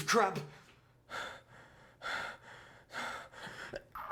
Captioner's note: breathing heavily